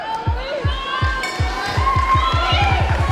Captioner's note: bell